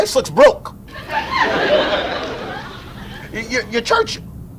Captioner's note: audience laughs